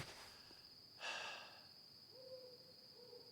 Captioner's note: sighs